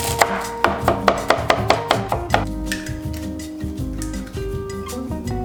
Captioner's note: chopping board thudding